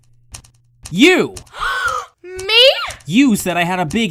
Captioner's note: clock ticking; gasps